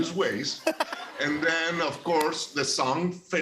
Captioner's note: laughter